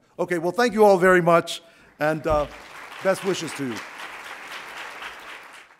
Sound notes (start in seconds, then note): 4.3 audience applauds